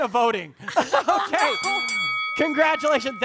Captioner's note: bell ringing